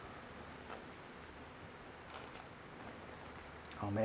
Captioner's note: sip